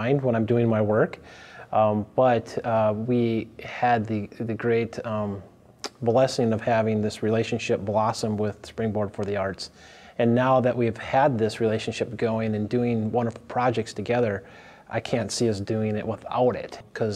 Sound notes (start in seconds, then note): none